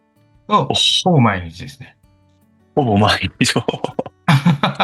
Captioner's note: laughs